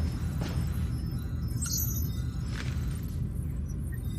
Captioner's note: beeping